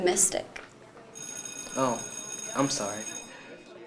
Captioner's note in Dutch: bel gaat